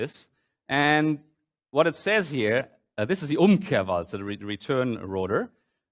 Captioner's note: german